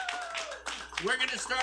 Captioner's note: applause